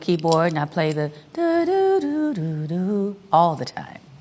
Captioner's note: vocalizes the progression